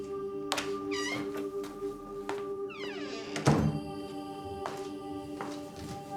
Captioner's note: door squeaking; latch clicking; footsteps plodding; pensive music continues